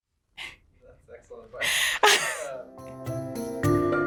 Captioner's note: laughs